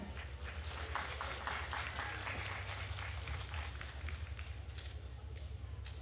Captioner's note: attendees cheering and applauding